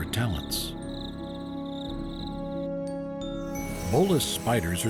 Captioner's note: birds chirping